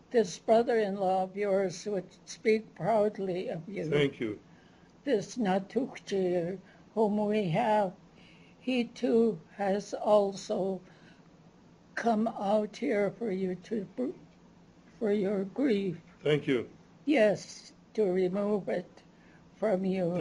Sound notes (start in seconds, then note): 6.1 non-english; 13.2 non-english